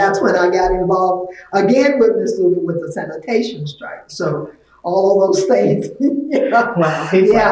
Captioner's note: laughs